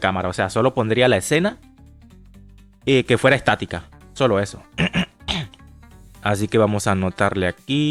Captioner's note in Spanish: carraspeo